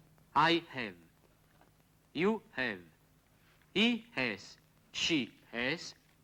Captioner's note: spoken English